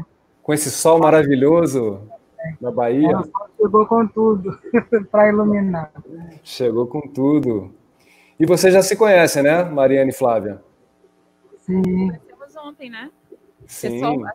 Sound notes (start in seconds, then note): 0.7 remainder of conversation in Portuguese